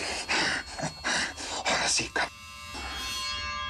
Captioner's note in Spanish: Respiración agitada